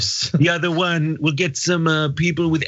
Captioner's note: laugh